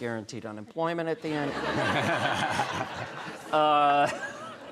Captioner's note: all laughing